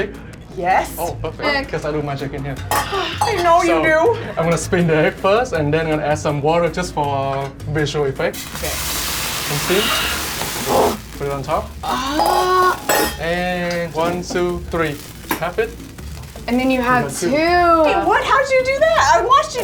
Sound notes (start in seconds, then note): 8.7 sizzling water; 12.0 metal clanking